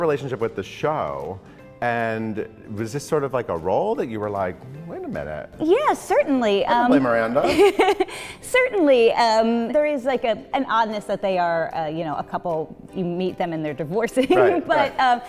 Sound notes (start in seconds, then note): 9.4 laughs